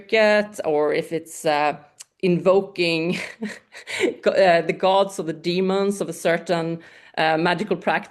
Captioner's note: laughs